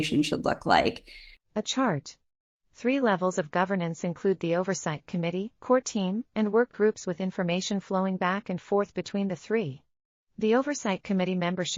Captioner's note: audio Description being read